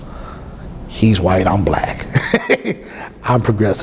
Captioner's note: laughs